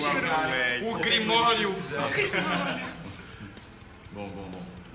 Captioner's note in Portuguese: risos